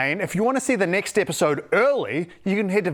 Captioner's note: none